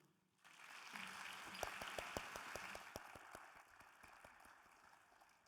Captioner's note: audience applauding